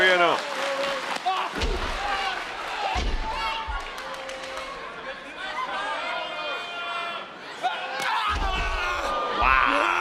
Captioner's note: applause